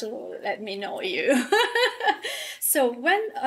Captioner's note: laughing